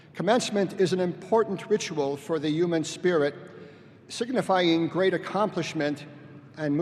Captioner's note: none